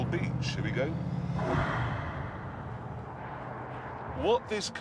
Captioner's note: whirring